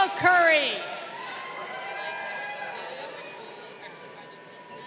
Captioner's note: crowd cheering